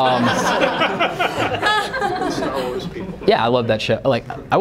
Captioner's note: laughter